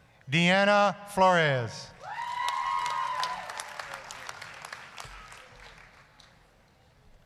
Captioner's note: applause, cheering